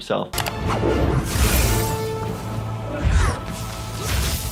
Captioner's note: flame whooshing